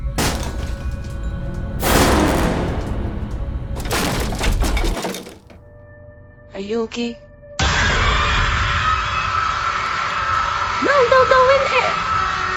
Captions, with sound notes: (crash) Are you okay? (intense scream) No don't go in there!